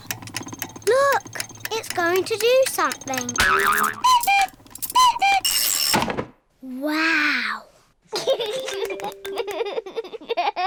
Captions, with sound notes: Look! It's going to do something! (CLOCK CUCKOOS) Wow! (LAUGHS)